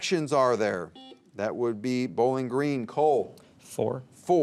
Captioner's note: buzzer beeps